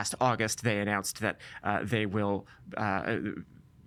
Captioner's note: stammering